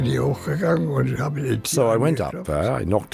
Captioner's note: speaking in foreign language